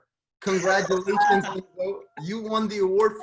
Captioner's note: gasps